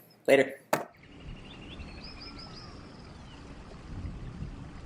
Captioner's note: birds chirping